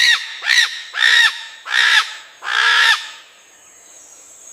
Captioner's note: bird calling in the distance